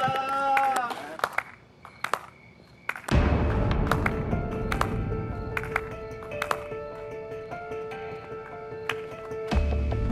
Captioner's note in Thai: เสียงปรบมือประชดเสียดสี